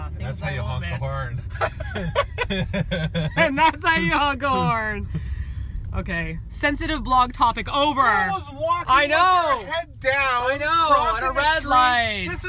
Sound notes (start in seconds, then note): 1.5 laughing